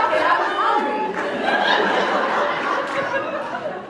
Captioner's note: laughs